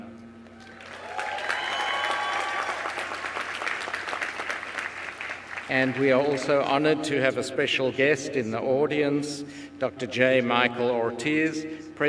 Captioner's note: applause